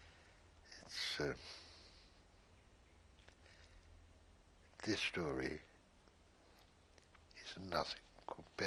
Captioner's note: pauses for 3 seconds